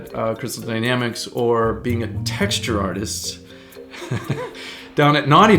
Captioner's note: laughing